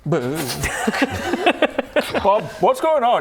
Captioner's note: laughs